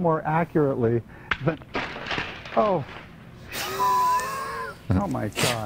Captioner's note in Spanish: risas; Emitir pitidos; zumbador